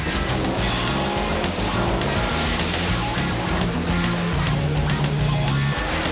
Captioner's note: water splashing; car engines revving